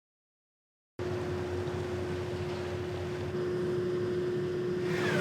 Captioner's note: machine engine whirring